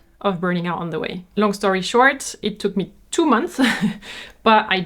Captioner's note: giggles